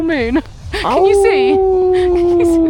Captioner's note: howls